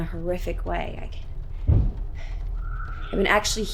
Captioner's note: something bangs